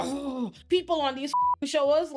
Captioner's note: beep